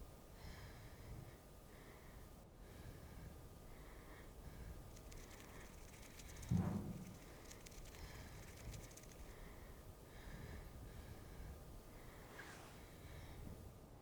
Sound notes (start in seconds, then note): 0.3 Ellie breathes uneasily; 6.5 head thuds